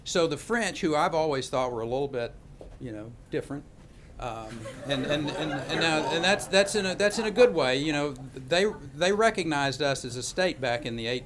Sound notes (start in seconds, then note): 4.4 laughter